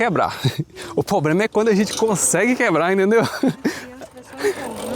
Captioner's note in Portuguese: risadas